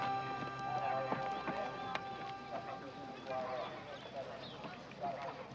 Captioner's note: muffled speaking over loudspeaker